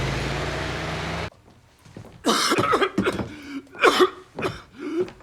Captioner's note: coughing